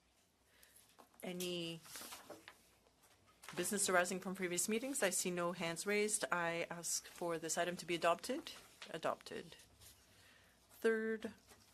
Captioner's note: speaking French